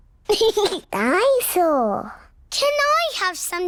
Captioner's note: giggles